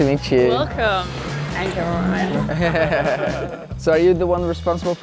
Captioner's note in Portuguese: risadas